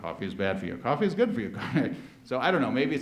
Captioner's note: laughs